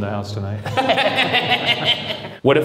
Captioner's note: both laugh